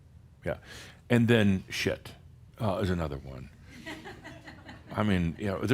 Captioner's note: a few giggles